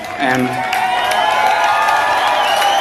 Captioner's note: crowd cheers